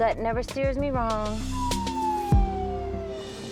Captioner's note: police siren